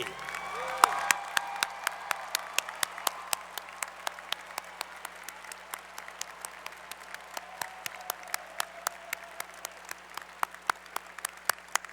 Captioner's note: applause